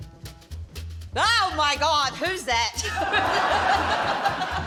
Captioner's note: laughs